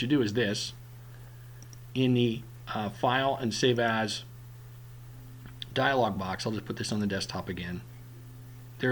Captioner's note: click